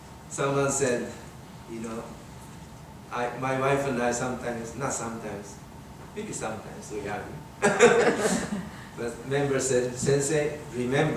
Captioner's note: laughs